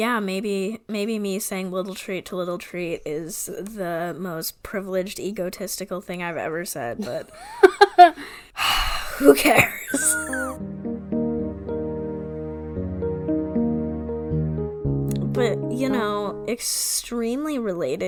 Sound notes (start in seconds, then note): 9.2 laughs; 9.8 sighs; 12.1 transition music